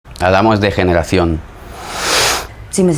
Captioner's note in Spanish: respira profundamente